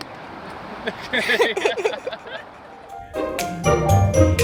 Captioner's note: all laughing; uptempo whimsical music